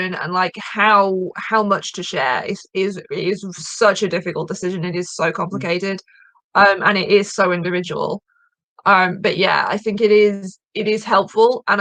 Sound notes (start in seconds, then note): none